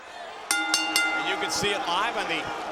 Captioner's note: bell rings